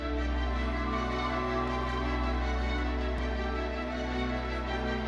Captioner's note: audience cheering and applauding